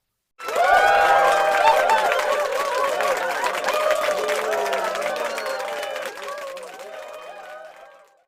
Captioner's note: applause